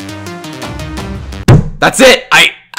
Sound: slams desk

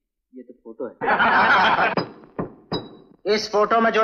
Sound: laughs; gavel Banging

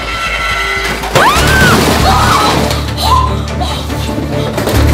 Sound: screams

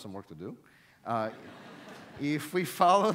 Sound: audience laughs

